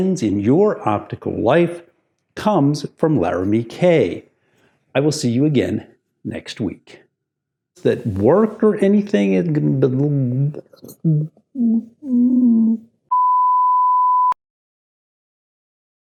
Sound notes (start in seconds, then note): 13.1 beep